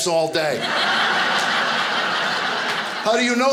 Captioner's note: audience laughing